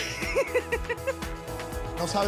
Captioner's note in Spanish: risas